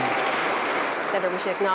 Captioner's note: applause